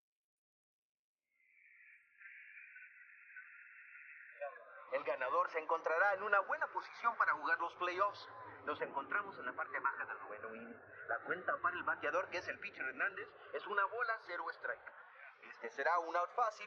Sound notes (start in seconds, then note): 4.8 foreign language